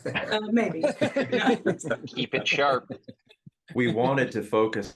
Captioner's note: laugh